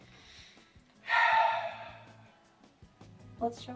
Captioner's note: sighs